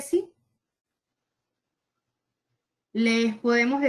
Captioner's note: silence